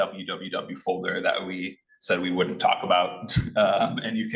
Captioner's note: laughing